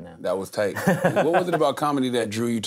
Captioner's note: laughs